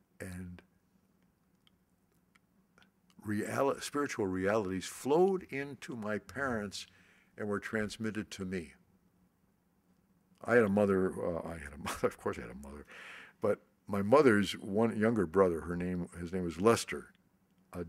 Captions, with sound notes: and spiritual realities flowed into my parents, and were transmitted to me. I had a mother-- (laughs) Of course I had a mother. But my mother's younger brother, his name was Lester,